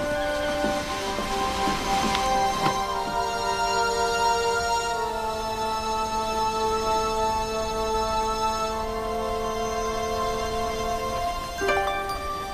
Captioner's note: door Opens